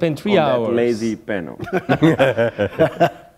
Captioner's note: chuckle